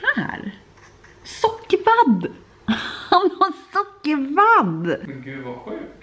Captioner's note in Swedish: skratt